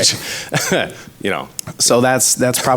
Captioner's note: laughs